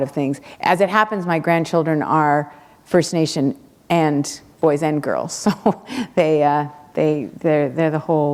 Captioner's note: chuckle